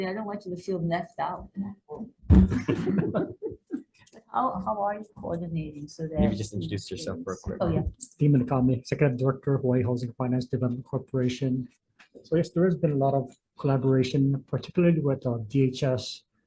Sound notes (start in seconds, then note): 2.3 all laughing